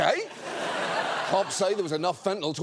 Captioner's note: audience laughs